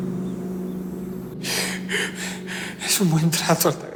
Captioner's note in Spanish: Sollozos